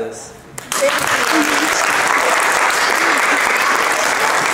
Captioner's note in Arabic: الضيوف يصفقون